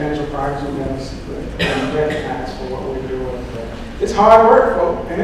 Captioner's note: speaking drowned out by coughing